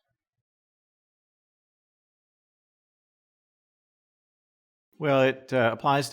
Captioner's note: silence